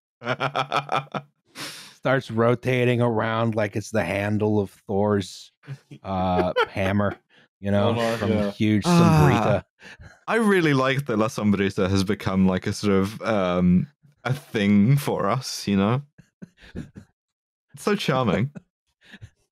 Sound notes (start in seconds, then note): 0.2 laughs; 15.8 chuckles softly; 17.9 chuckles softly